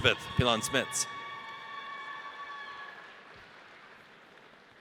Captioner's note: audience cheers